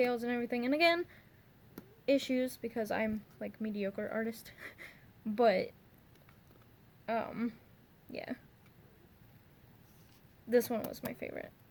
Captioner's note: nervous giggle